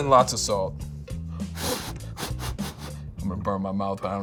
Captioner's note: blows air loudly